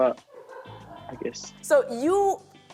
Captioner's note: laughter